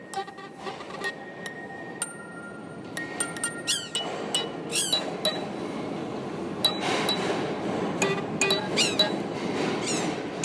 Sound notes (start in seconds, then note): 0.1 horn; 4.6 squeaking; 6.6 subway train rumbling